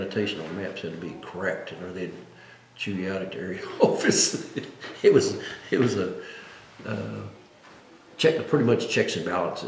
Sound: laughs

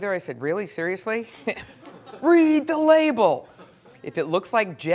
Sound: laugh

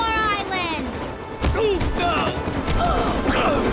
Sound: grunting

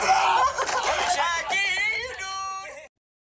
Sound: laughing; laughs

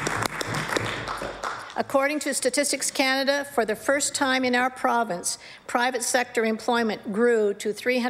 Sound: applause

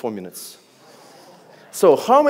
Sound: audience gasps

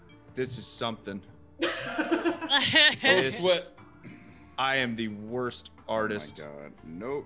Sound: laugh

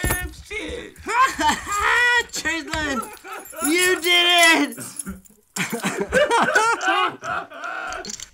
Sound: breaking character laughing

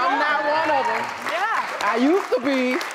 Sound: applause

